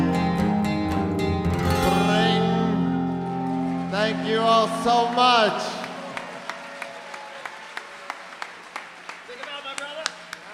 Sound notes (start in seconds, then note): 6.0 applause, cheering